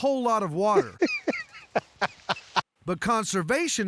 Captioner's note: laughter